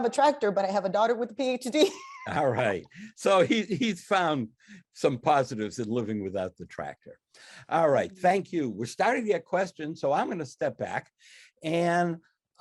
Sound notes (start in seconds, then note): 1.8 laughs